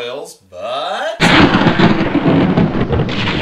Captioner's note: thunder